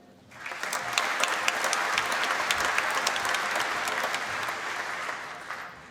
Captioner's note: applause